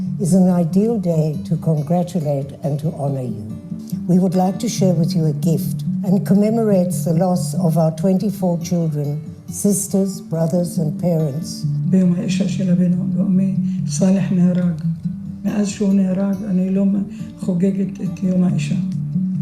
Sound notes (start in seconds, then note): 12.4 speaking in foreign language